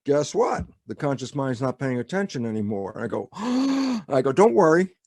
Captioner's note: gasps